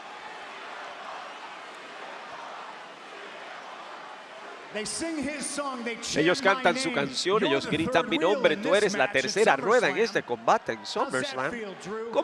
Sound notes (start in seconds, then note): 0.0 applause